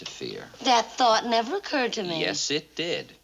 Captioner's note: none